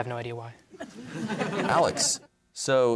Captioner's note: laughter